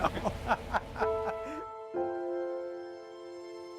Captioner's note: laughs